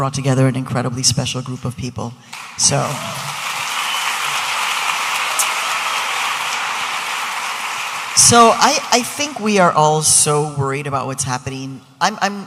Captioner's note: audience applauding